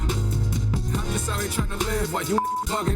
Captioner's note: beeps